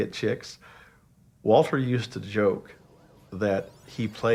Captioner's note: video game beeping